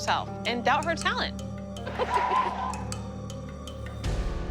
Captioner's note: laughing